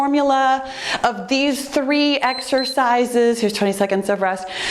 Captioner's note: timer beeps